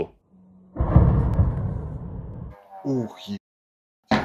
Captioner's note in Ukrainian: вибух